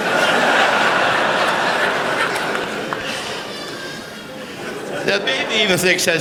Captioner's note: laughter